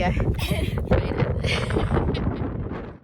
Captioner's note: wind blusters loudly; chuckle